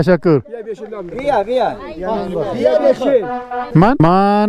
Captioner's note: speaking in Persian